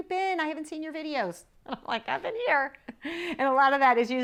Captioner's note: laughs